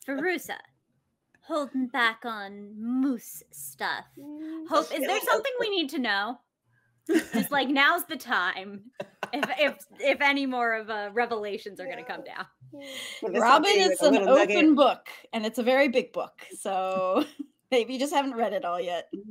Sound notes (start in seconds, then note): 9.0 laughs